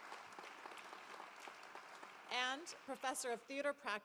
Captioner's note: applause